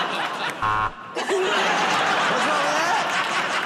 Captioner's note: laughter; buzzer